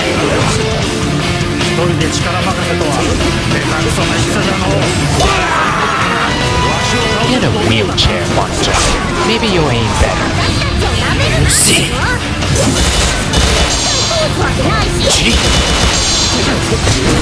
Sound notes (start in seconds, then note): 5.2 KO Scream